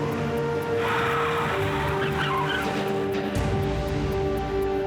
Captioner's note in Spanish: chirrido de llantas